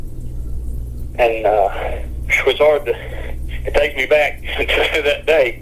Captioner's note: sighs